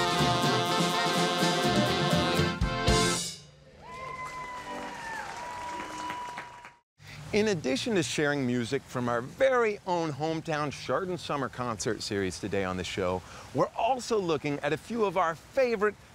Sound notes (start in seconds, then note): 3.7 crowd cheering